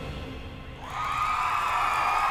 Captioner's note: cheering